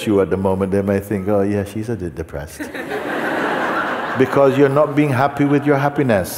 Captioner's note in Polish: śmiech